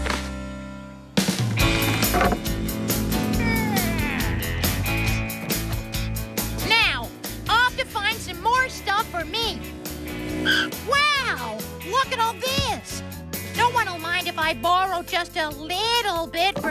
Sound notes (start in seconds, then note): 10.6 tires Screech